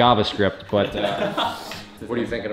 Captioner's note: laughing